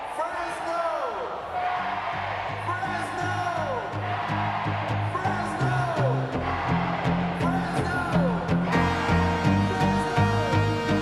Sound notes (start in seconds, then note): 0.0 crowd cheering; 1.7 crowd; 4.0 crowd; 6.4 crowd; 8.8 crowd